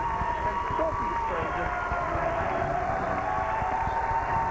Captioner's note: cheers and applause